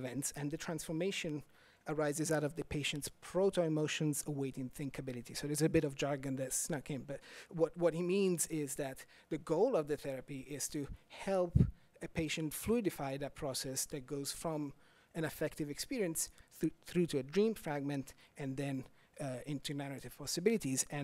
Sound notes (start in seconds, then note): none